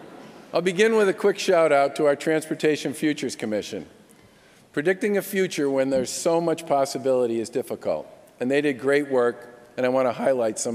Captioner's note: laughter